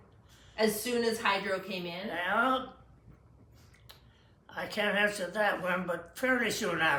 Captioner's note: smacks lips